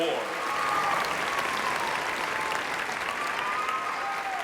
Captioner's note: cheering and applause